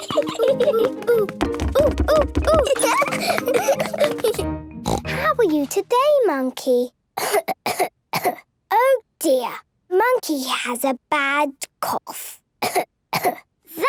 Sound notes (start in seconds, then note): 1.6 laughs; 4.8 snort; 7.2 she pretends to cough; 13.1 pretending to cough